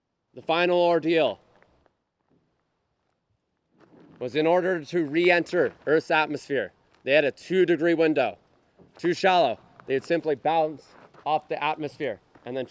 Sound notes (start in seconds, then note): none